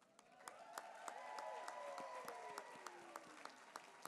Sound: applause

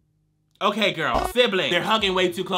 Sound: transition clicks

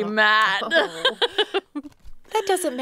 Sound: laughing

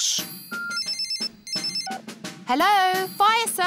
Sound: phone rings

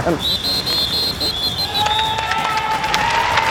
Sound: whistling; cheering

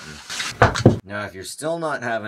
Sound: item thumps

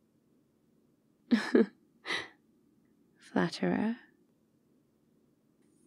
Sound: laughs

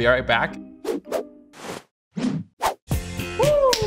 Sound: arms wooshing

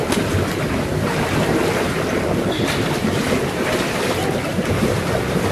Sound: water splashes

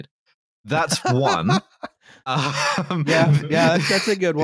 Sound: laughs

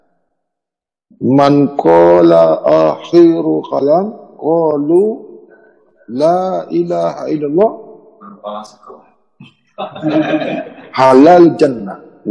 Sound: Arabic language

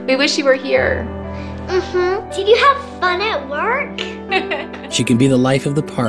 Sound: woman giggles

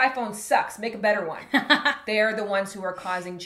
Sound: laughs

